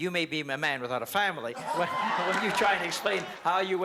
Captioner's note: laughter